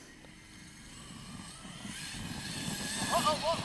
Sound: RC truck wheels spinning

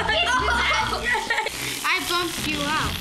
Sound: laughing

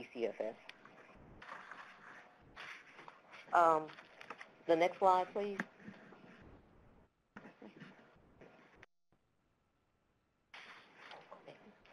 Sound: pause

